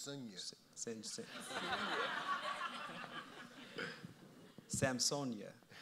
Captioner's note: audience laughs